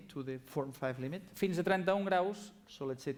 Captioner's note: non-english speech